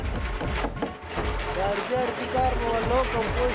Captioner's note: foreign language